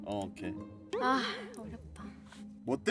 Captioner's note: sigh